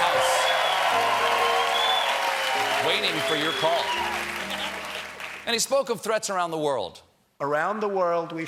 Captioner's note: cheers and applause